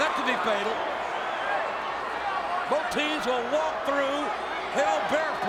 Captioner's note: applause